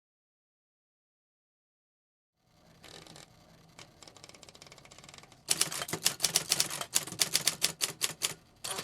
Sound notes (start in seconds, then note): 5.4 typing